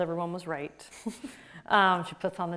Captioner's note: laughs